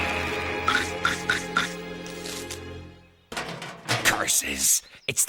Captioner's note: chomping